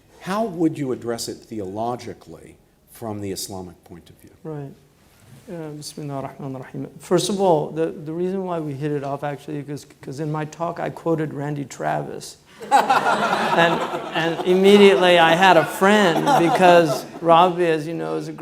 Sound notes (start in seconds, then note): 5.6 words spoken in foreign language; 12.6 laughing